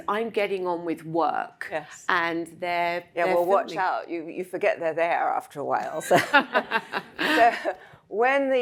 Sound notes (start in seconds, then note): 6.0 both laugh